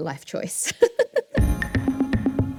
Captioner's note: laughs